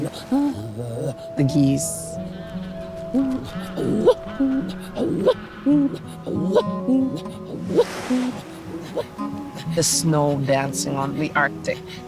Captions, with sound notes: the geese, (geese honking) the snow dancing on the arctic.